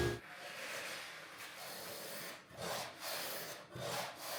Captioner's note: wood planer scraping